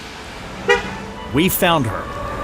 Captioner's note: car honks; traffic noise